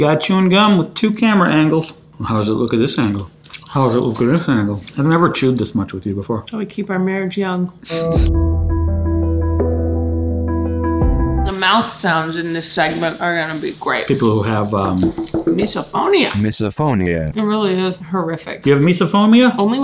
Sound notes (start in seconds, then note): 7.8 light music; 14.8 taps knuckles on table